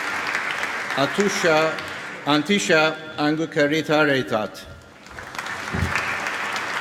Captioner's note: applause